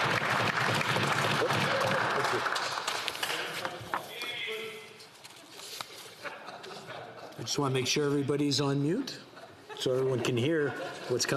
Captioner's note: some Applause